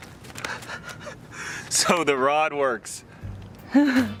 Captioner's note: laughing